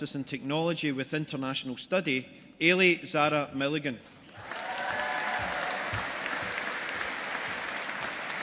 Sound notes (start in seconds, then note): 4.3 audience applauding